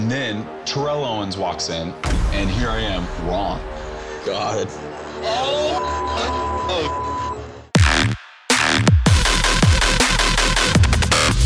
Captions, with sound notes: And then, Terrell Owens walks in and here I am, raw. God. (beep) (beep) (beep) (funky techno music)